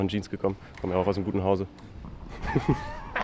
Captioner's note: laughs